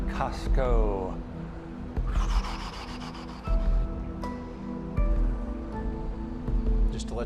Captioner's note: exhaling